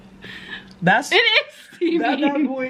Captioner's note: laughing